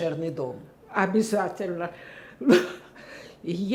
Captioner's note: laughing